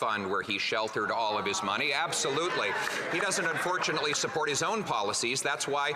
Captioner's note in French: voix de l'interprète